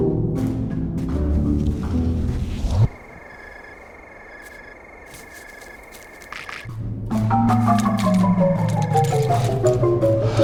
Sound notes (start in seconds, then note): 2.8 crickets chirping